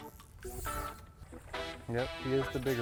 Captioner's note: line whooshing